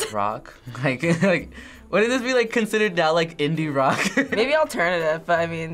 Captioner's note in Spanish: risas